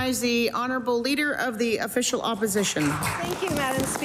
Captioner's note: applause